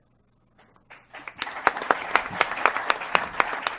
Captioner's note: applause